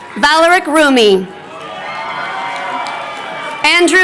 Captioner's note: crowd cheering